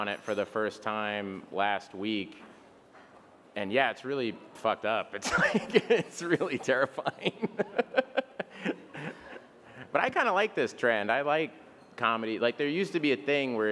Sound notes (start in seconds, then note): 7.6 Bill laughs